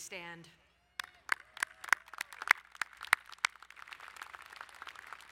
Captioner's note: cheering and applauding